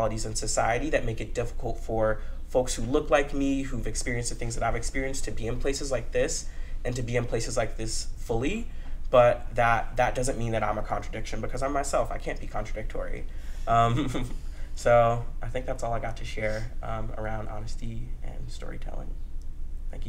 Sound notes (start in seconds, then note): 13.8 laughs